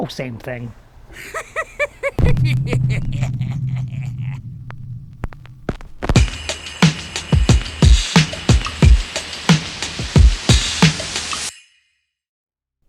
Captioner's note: laughs